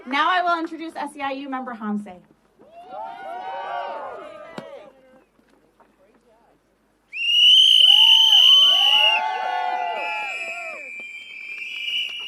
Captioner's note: cheering